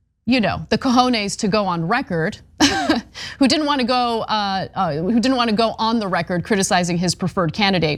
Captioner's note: laugh